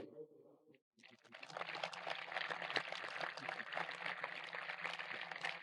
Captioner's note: audience applauding